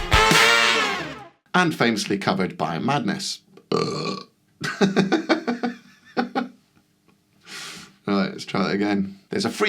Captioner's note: massive burp